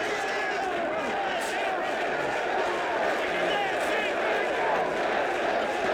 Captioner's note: crowd chants "Sid"